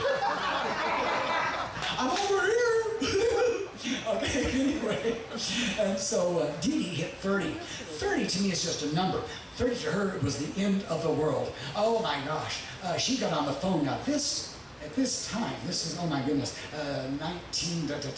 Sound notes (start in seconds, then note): 0.0 audience laughing; 2.7 chuckling; 2.9 laughing goofily